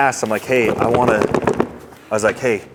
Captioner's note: box contents rattling